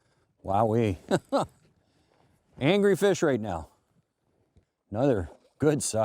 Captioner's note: laughs